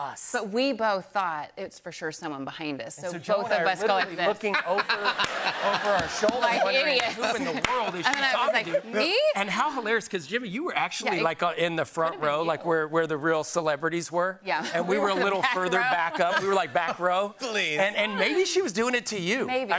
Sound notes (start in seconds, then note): 3.5 laughter